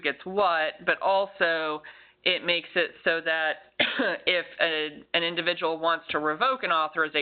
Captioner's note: coughs